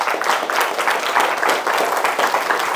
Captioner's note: applause